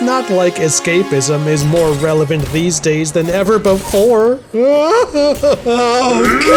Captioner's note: sobbing